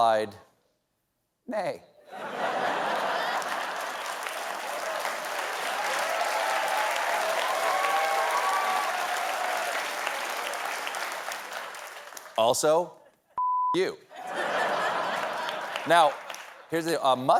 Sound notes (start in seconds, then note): 0.7 applause; 2.1 laughter; 2.2 cheering